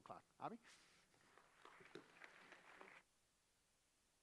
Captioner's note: applause